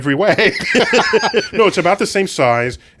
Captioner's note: laughs